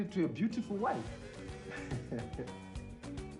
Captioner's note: Jethro chuckles